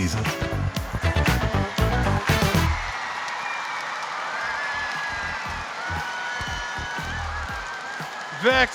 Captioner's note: crowd cheering